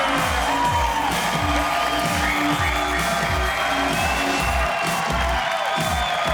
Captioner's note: upbeat music; cheers and applause